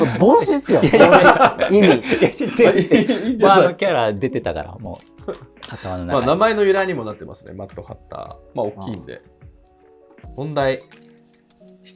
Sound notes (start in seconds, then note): 2.4 laughing